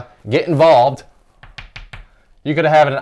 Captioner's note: chalk tapping